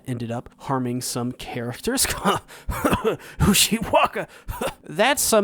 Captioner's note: cough